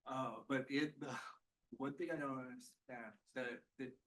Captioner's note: laughs